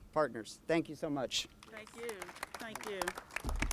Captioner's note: applauses